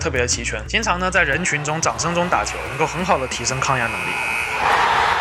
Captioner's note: or booing